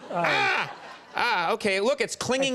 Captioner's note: Conan screams